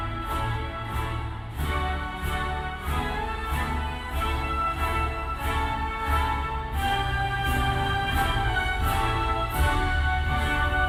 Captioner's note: cheers and applause